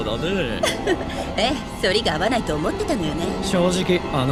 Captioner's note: chuckles